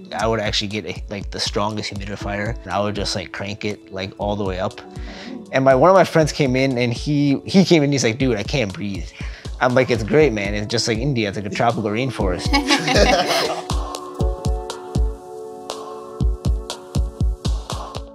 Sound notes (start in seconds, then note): 12.5 everyone laughing